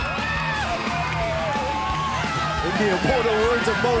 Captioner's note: cheers and applause